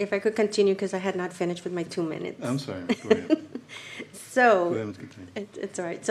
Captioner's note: laughter